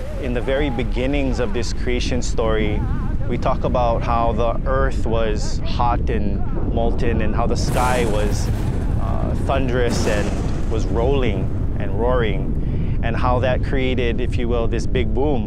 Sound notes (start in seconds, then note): 8.7 thunder rolling